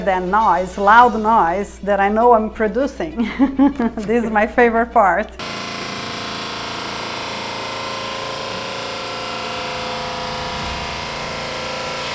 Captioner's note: laughter